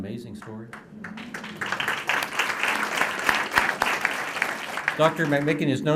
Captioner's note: applause